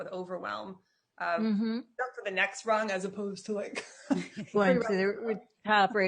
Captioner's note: chuckles